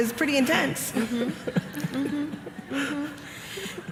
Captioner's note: laughter